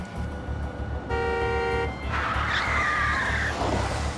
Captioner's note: horn